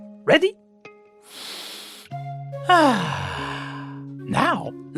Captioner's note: breathes deeply